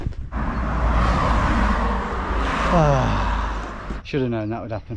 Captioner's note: vehicles whooshing; Tom sighing